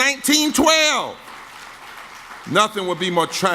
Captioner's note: audience claps